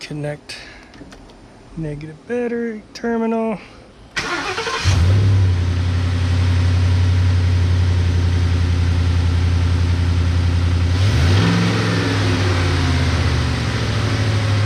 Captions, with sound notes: Reconnect negative battery terminal (engine starting) (engine rumbling) (engine revving)